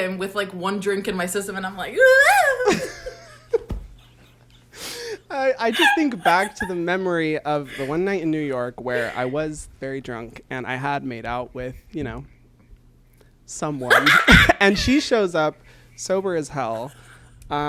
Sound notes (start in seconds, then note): 2.0 both laugh; 2.1 speaks gibberish; 13.9 laughs